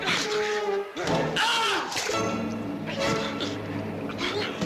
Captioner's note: yelling